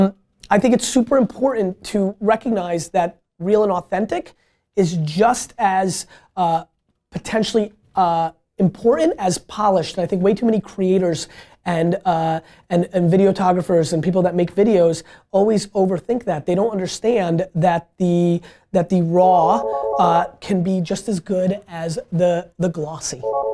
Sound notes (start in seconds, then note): 19.4 phone rings